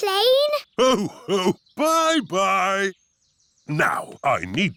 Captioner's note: laughs